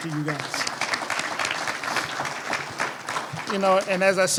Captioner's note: applause